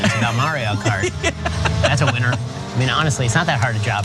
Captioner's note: laugh